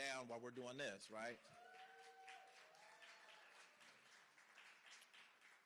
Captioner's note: cheering